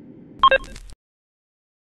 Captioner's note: beep